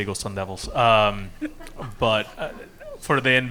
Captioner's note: audience and panelists laughing